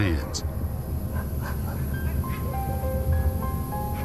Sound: distant dogs barking

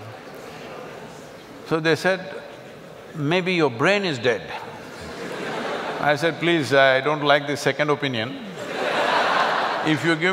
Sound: laugh

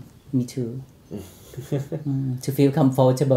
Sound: laughing

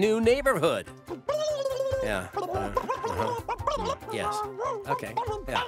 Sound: babbling

